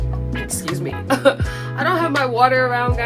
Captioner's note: coughs